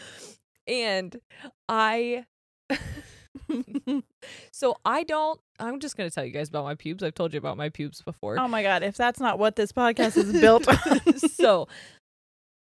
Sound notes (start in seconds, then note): 2.7 both laughing; 3.7 laughs